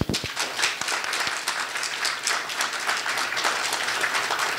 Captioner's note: audience applauding